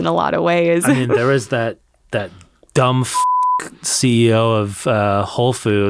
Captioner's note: beep